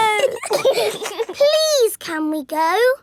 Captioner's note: giggling